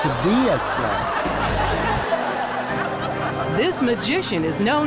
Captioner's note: audience laughs